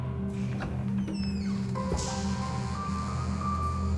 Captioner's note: door squeaks